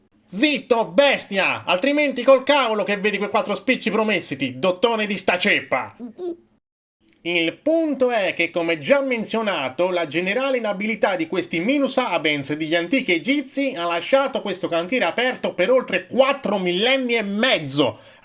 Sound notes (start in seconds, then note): 5.9 gulp